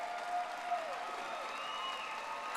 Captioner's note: audience applauding